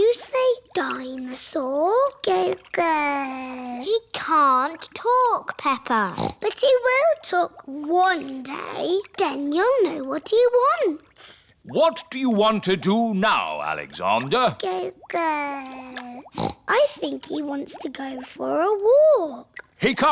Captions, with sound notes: -Can you say "dinosaur"? -(BABBLES) He can't talk, Peppa. (SNORTS) But he will talk one day. Then you'll know what he wants. What do you want to do now, Alexander? (BABBLES) (SNORTS) I think he wants to go for a walk.